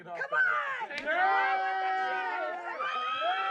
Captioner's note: whooping and screaming